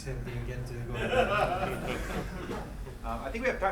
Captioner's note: laughing